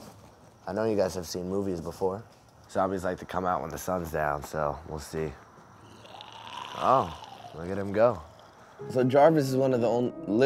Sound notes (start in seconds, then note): 5.8 zombie growling; 8.8 gentle piano music